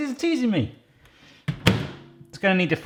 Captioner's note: microwave door closing